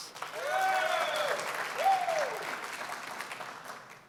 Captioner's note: cheering, applause; applause